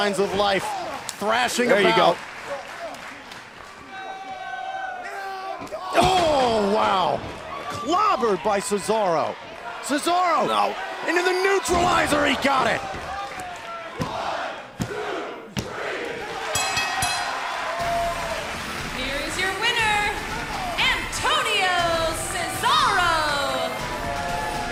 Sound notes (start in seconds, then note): 16.5 bell ringing